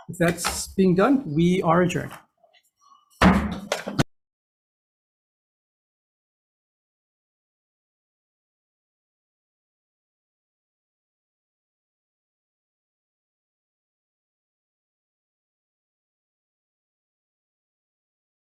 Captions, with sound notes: If that's being done, we are adjourned. (gavel bangs)